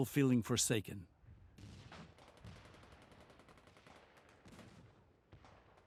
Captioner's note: gunfire